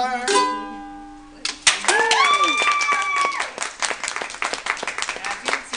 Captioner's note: applause